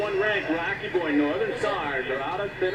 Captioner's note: radio Announcer